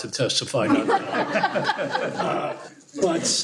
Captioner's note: laughter